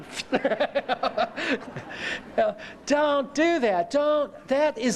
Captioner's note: laughter